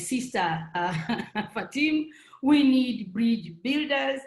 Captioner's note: laughs